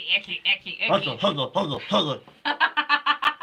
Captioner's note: laughing; imitating bird